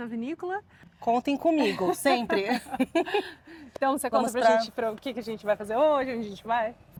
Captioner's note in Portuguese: risadas